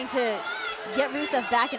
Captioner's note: shouting